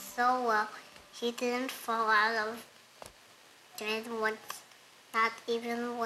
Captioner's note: baby talk